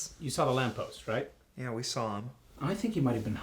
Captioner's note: none